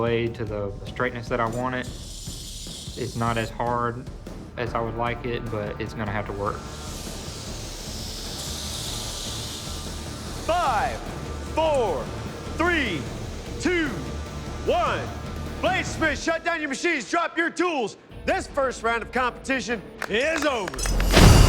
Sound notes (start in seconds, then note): 6.3 dramatic music plays; 6.3 whirring